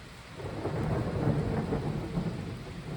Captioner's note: loud thunder clap